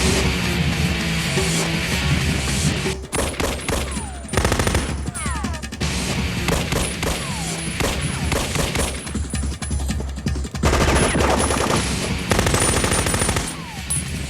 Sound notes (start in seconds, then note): 0.1 heavy metal music; 3.0 pistol firing; 4.6 machine gun firing; 6.7 pistol firing; 10.9 machine guns firing